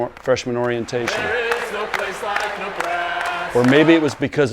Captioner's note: crowd chanting